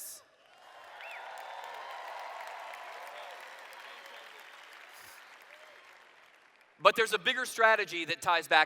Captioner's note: cheers